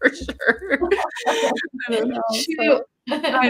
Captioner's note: both laughing